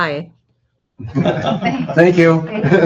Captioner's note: all laughing